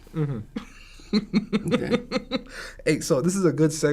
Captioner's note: laughs